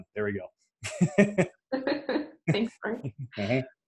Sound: laughs

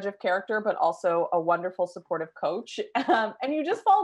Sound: laughs

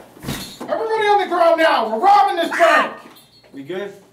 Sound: scream

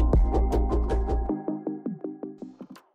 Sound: project clicking

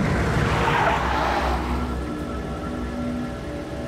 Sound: tires squealing; suspenseful music

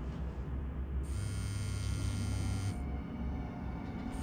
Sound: ominous music; phone vibrates

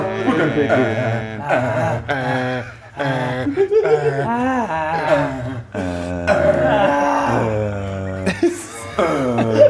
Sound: laugh

